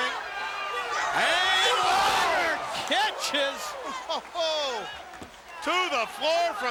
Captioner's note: laughs